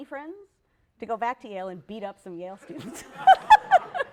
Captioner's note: laughter